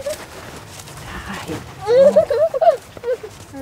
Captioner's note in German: weint